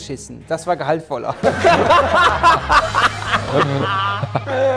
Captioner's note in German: Gelächter, schelmische Musik